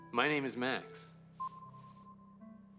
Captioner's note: system beeps